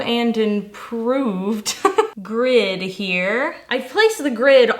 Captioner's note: laughing